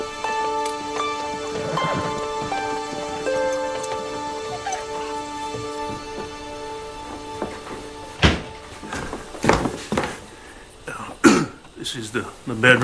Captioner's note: clears Throat